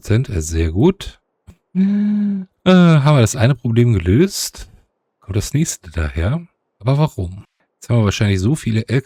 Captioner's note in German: japst